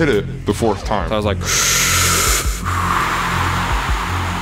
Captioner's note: breathes deeply